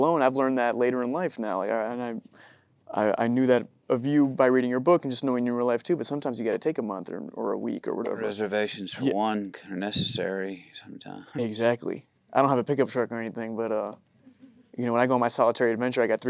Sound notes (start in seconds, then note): 14.2 audience chuckling